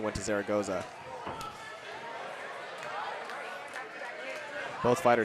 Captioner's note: audience cheering